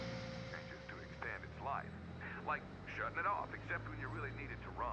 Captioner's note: radio chattering